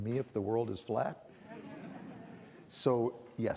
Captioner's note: audience laughing